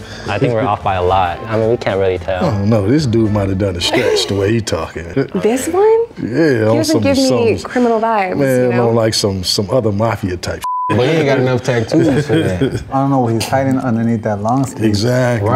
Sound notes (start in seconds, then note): 10.6 beep